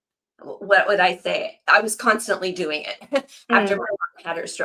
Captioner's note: laughs